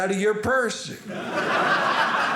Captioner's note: audience laughing